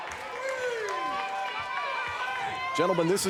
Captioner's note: crowd shouting